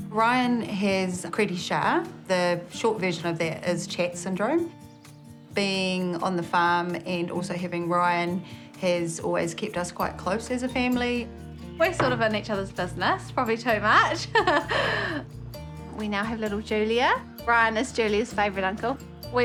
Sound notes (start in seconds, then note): 14.2 laughs